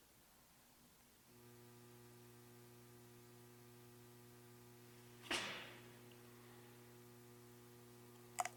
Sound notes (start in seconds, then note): 1.2 light humming